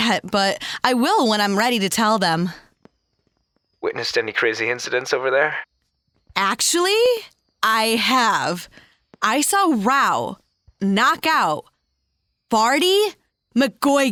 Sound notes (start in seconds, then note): none